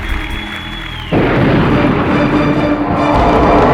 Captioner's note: thunder rolls